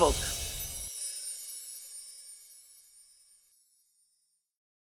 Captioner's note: light fairy dust sound